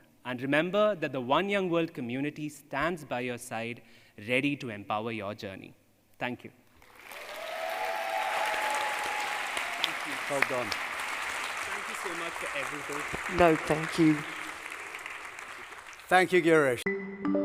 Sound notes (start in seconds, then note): 8.2 heavy applause